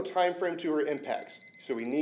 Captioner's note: beeping sounds